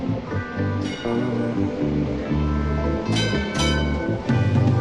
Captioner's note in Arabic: رنين الجرس